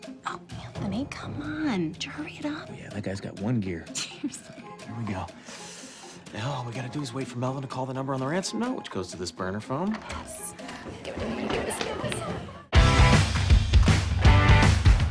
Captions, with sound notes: - Oh, Anthony, come on. Would you hurry it up? - Yeah, that guy's got one gear. - [laughing] Seriously. - Here we go. [inhales sharply] Now all we got to do is wait for Melvin to call the number on the ransom note, which goes to this burner phone. - Yes. Give it to me. Give it to me. - That was so fun!